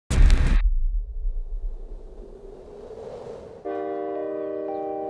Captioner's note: television static; whirling wind